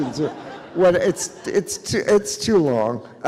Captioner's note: audience chuckles